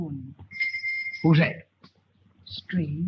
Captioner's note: bell ringing